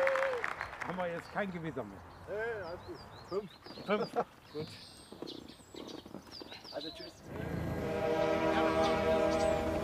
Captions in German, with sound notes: Bekommen wir jetzt kein Gewitter? - Nee, alles gut. (Leises Lachen, Vogelzwitschern) (Feierliche Musik)